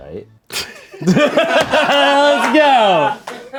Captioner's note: laughs